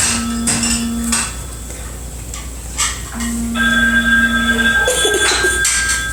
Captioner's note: phone ringing in the background; laughs